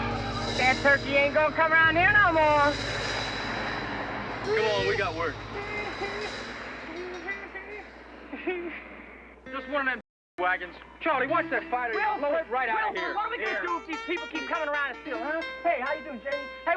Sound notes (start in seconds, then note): 6.2 laughing